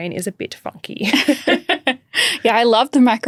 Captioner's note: chuckling